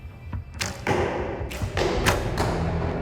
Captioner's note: arrows flying and striking target